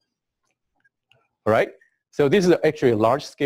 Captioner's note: pause